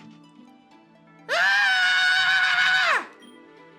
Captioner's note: squeals in pain